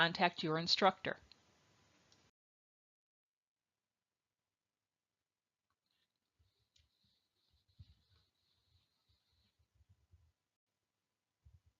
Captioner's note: silence